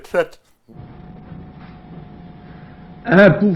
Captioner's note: General de Gaulle's voice